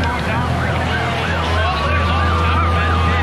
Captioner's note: sirens wailing